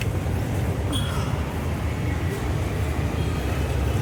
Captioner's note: street noise